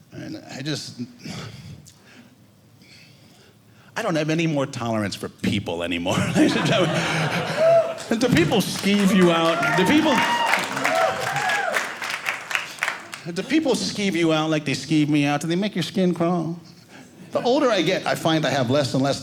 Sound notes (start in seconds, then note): 9.5 audience cheering